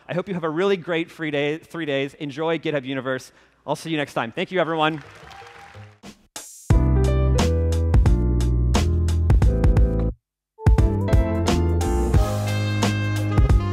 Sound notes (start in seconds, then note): 4.6 applause; 6.5 jazz music